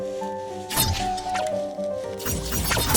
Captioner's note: laser blast; laser whizzing; laser pistol shots